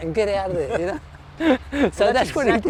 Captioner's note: laughs